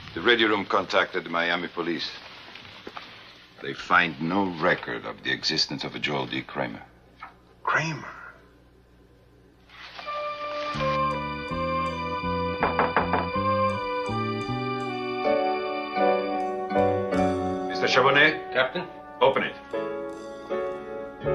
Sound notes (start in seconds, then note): 10.7 tense music; 12.6 knock on door